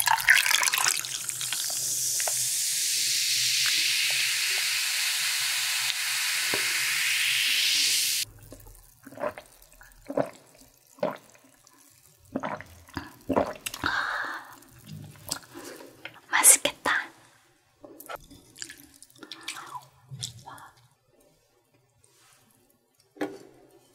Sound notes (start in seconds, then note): 1.7 cool soda sounds are always cool ~